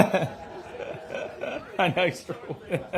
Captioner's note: laughter